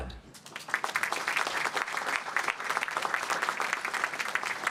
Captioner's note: applause